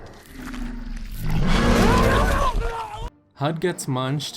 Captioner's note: Clover roaring, Hud screaming